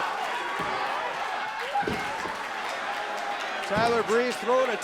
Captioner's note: crowd cheering